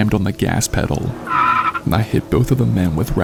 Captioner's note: car tires screeching